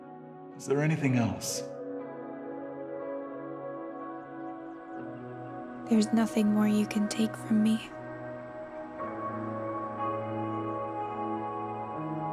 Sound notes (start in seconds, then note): 4.0 birds chirping; 9.1 soft melodic music